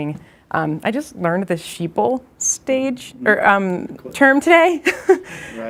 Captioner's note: laughs